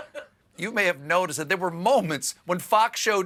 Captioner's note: laughter